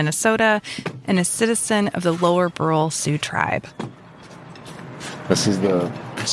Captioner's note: noise of us getting out of the car and walking